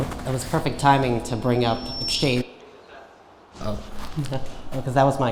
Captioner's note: speaking faintly